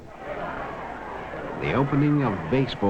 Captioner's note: crowd talking